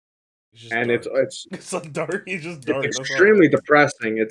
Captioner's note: laughs